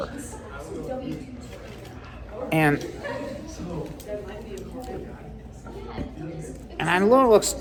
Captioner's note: students chattering